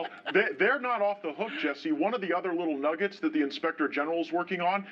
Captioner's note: laughter